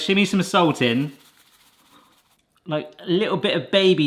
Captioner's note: salt rustling